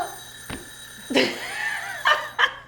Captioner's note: bell ringing; woman laughing